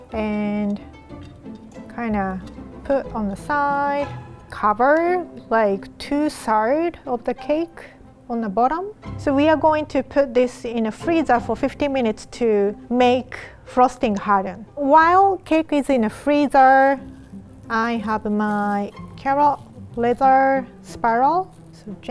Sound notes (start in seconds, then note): none